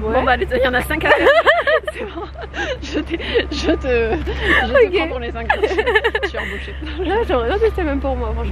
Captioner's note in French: rires